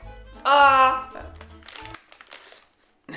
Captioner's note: laughs